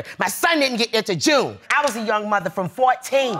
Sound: audience gasping

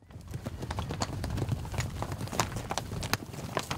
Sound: horses galloping

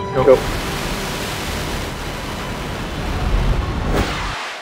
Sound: blasting

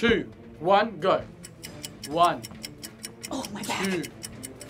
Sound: clock ticks

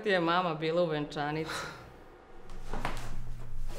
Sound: sigh

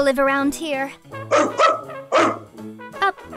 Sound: bark

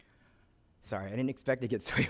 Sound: chuckles

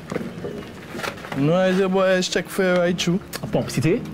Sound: in foreign language

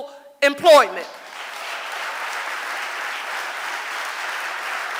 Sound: audience applauding

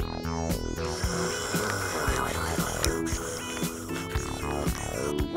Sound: slurp...slurpslurpslurpslurp

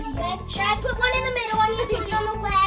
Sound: laughs

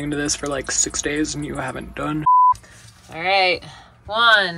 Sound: beep

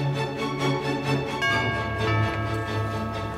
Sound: bell ringing

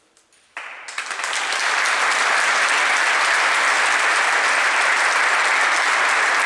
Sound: applause

